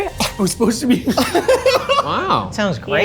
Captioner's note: both laughing